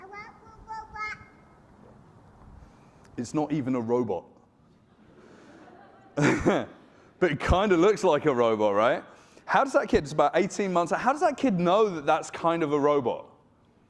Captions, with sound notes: I love you, robot. - It's not even a robot. (audience laughing) (chuckles) But it kinda looks like a robot, right? How does that kid, he's about 18 months, so how does that kid know that that's kind of a robot?